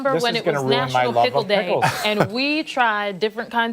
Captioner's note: laughter